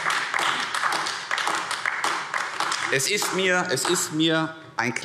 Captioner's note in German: Beifall AfD